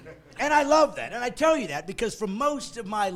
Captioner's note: laughing